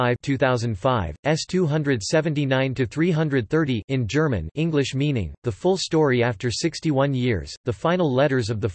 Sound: in German

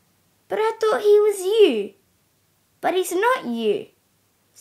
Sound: none

